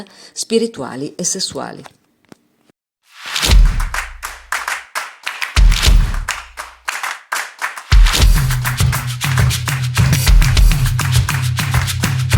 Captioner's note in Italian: Applauso